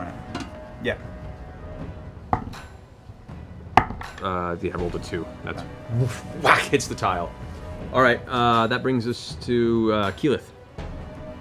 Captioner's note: whoomph